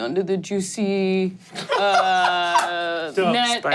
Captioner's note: laughs and claps